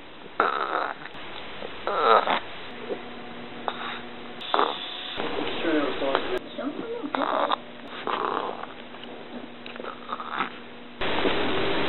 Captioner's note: burps